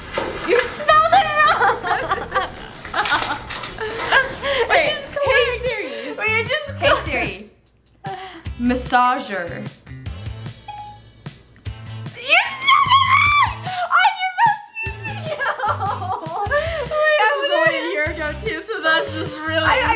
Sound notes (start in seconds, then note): 0.8 laughing; 14.6 laughing